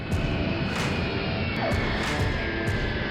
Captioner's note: airplane engine roaring; upbeat music